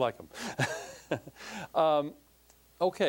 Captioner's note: laughing